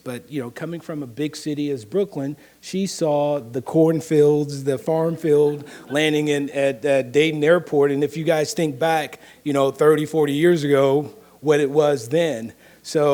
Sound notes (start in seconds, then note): 4.9 audience laughing